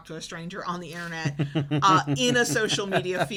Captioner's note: laughs